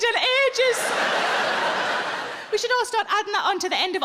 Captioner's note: audience laughing